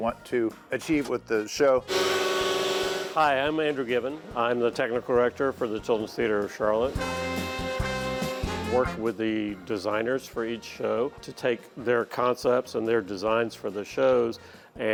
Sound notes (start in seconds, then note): 1.9 machine whirring; 7.0 upbeat music